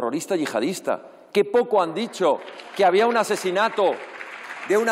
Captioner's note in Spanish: aplausos